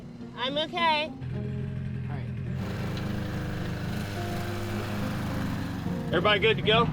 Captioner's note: glider engines revving